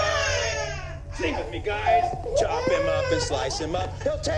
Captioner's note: crying Continues